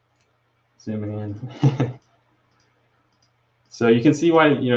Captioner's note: chuckles